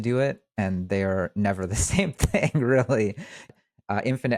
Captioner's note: chuckles